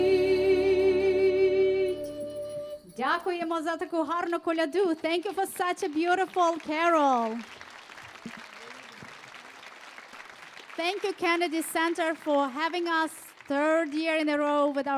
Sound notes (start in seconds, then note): 3.2 speaking foreign language; 8.0 audience applauding